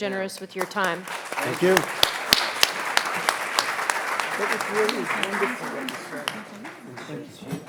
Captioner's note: audience applauding